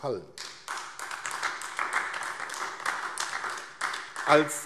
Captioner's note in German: Beifall AfD